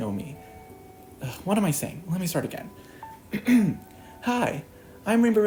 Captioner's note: clears throat